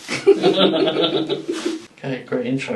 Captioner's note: people laughing; clothing rustling